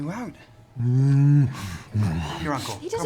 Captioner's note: moans, snuffles